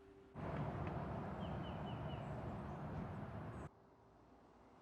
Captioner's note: birds singing